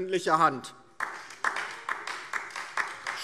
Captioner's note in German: Beifall DIE LINKE